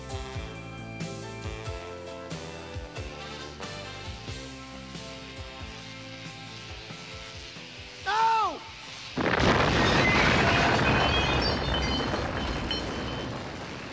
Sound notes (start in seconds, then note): 4.4 electrical whirring; 8.8 music fades out; 9.7 electrical sparks burst